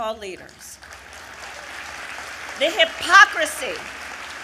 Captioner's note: applause